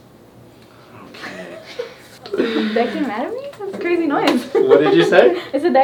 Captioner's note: laughs